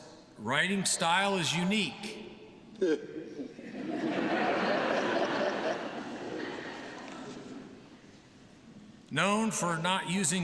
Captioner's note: laughter